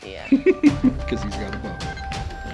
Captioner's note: laughs